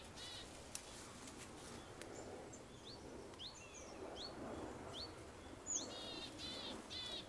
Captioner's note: wind blows; birds chirp